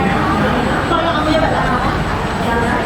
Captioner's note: station ambience